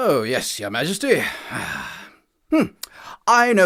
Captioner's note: exhales